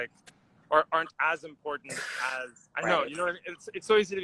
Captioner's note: scoffs